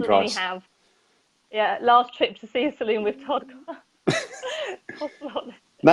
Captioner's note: laughs